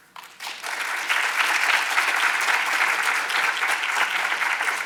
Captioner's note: audience applauds